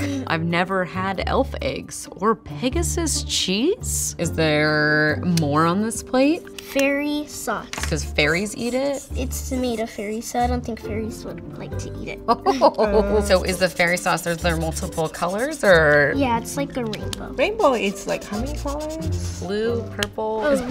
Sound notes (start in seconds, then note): 12.3 laughs